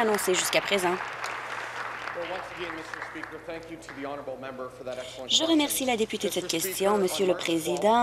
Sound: applause

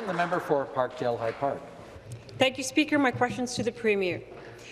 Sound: applause

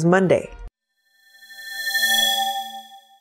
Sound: swoosh

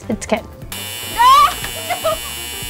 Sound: buzzer

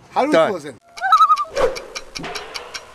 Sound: loon call

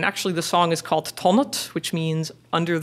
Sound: foreign language

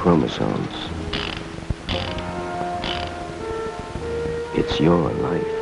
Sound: clicking sound as the chamber of the gun spins

